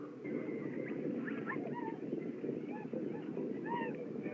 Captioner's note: war Whoops Fade In Distance